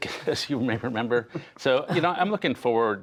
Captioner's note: laughter